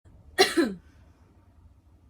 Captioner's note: cough